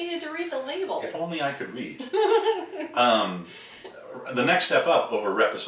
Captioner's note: laughing